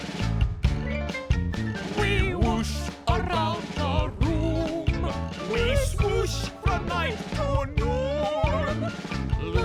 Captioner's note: monkeys singing